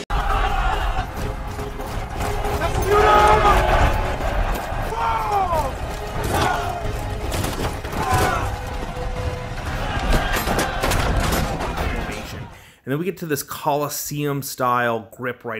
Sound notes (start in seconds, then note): 0.1 war chants; 8.3 shouting